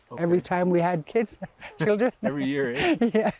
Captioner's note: laughs